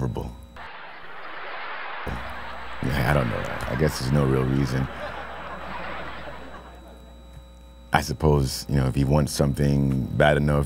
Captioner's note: laughter